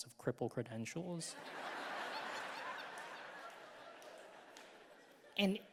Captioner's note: audience laughing